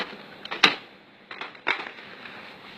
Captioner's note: toner cartridge clicking